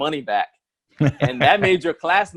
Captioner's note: laughs